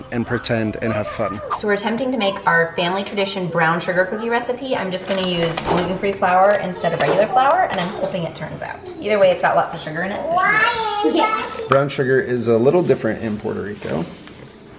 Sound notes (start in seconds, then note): 10.0 kids talking in background